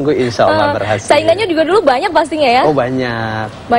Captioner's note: non-english speech